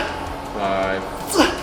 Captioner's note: grunting